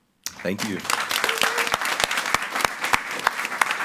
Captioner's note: all applauding